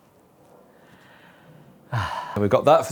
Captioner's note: sigh of relief